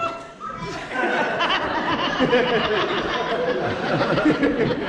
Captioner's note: laughter